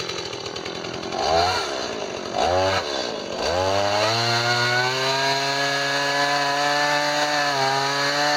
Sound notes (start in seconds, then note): 0.0 chainsaw revving